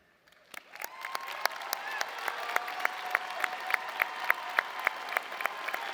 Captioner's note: audience cheering and applauding